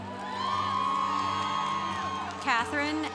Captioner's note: congregation cheering